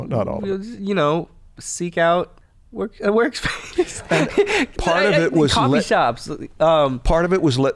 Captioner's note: chuckles